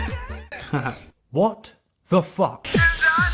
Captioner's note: chuckles